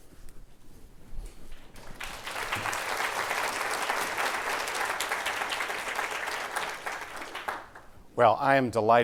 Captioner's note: applause